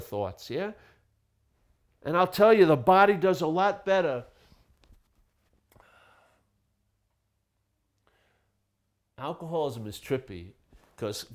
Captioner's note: pause